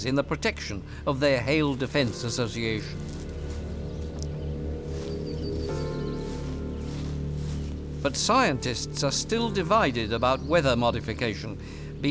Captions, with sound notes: in the protection of their hail defense association. [birds chirping] But scientists are still divided about weather modification,